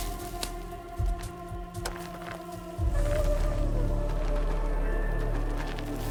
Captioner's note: footsteps crunching